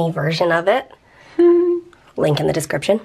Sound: laughs

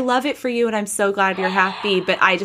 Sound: gasping

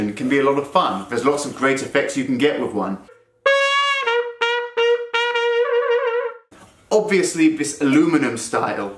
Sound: trumpet effect

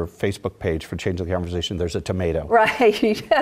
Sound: laugh

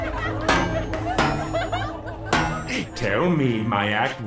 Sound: whirring; metal clanging

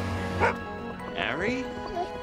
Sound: Harry barking

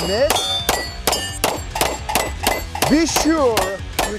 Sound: metal clanging; gun firing

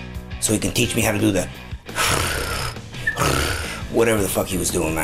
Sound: tongue roll

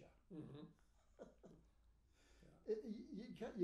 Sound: laughing

